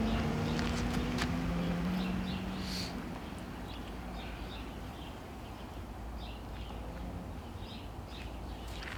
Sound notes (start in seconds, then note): 2.3 sniffs